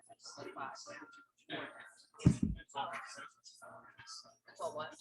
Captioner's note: people chattering indistinctly